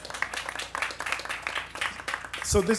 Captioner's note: applause